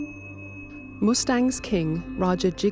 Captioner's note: voiceover